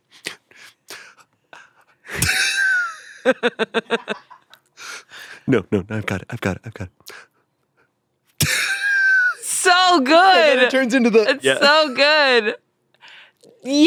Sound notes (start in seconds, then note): 2.2 everyone laughs; 8.4 laughs